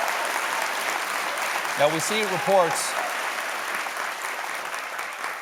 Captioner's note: applause